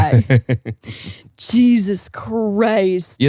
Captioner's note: laughs